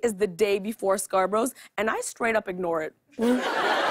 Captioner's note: laughter